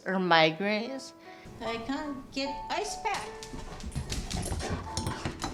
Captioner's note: panting